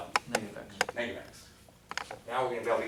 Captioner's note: voiceover